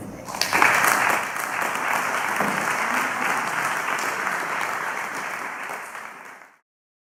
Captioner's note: clapping